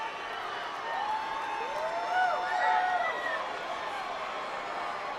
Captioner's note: audience cheers